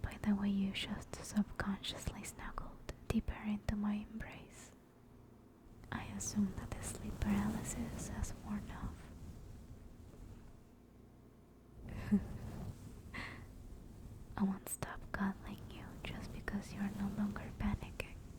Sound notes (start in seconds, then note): 11.9 laugh